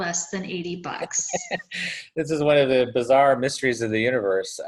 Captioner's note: laughs